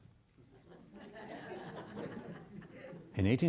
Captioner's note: audience laughing